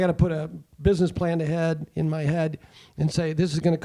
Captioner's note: none